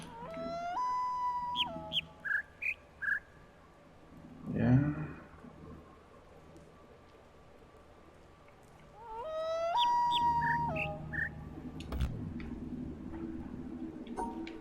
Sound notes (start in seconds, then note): 0.0 coyote howls ˩˧˥˥ ˧; 0.0 bird chirps five notes; 8.9 coyote howls ˩˧˥˥ ˧; 9.1 bird chirps five notes